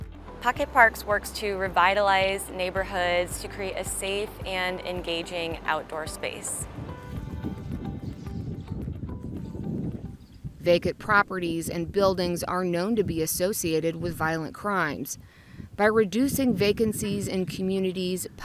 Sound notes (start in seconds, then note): 5.6 wind blowing gently